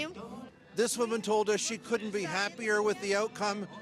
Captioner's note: speaking russian